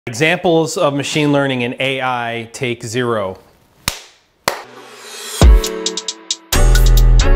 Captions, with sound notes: - Examples of machine learning and AI take zero. (clapping) (upbeat music)